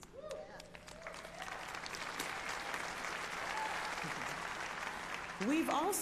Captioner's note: applause